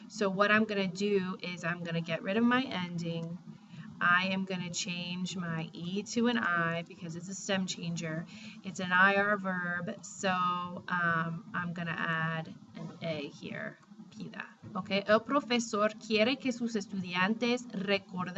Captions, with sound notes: so what I'm going to do is I'm going to get rid of my ending. I am going to change my e to an i because it's a stem changer. It's an ir verb, so I'm going to add an a here, [spanish]. [speaking spanish]